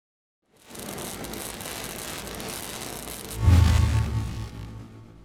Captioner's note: welding metal sound